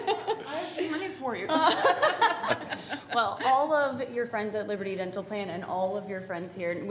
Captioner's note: laughter